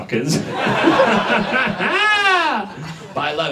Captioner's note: audience laughs